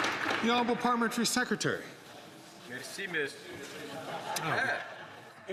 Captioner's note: some Applause